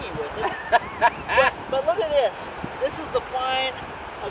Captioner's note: laughs